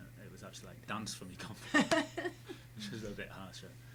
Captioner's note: laughing